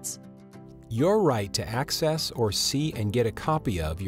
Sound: voiceover

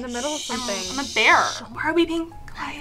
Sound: shushing

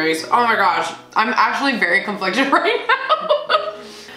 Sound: laughing

